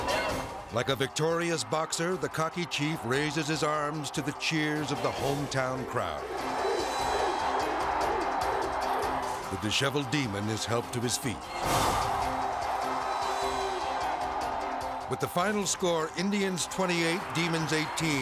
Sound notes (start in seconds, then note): 6.1 crowd; 12.6 crowd shouting